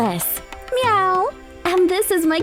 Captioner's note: meowing